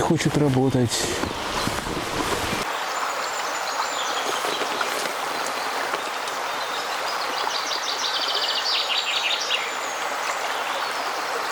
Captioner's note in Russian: шум реки; пение птиц